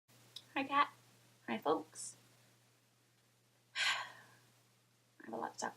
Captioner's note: sighs heavily